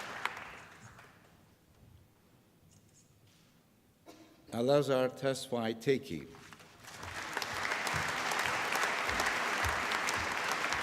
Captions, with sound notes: Alazar Tesfay Tekie. (APPLAUSE)